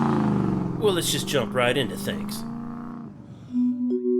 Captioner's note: car engine revving